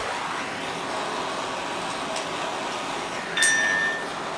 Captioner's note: scorching and clanking